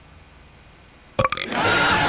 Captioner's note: burp